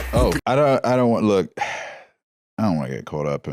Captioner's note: sighs